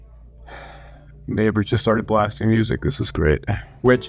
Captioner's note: sigh